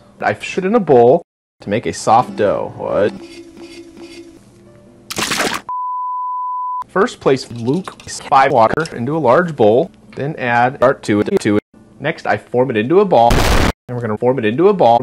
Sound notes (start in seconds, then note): 5.1 splort